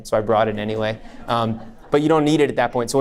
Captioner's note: audience laughs